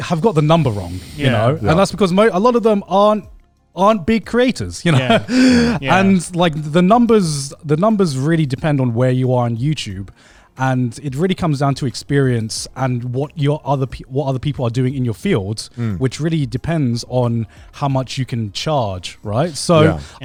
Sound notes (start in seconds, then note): 4.8 laughs